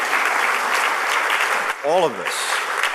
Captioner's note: applause